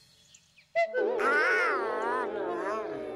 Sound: donald groaning

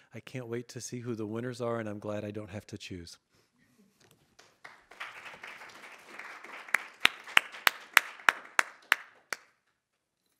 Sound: audience applauding

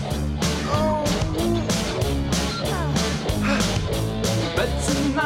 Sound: ילדים נאנחים

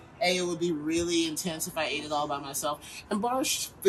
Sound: none

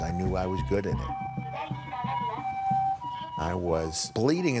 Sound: ambulance siren wailing

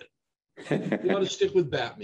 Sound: laughs

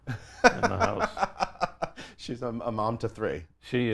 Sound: laughs

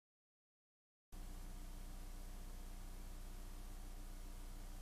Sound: VHS static

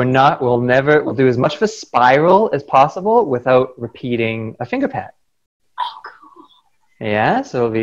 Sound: whispered

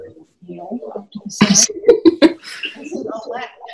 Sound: laughter

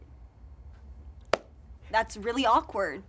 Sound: hand's clapping

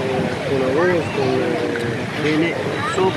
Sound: Spanish

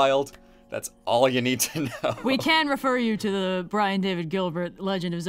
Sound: laughs

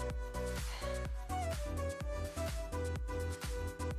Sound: exhales

